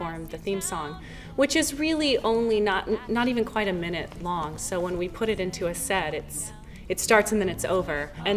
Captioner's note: none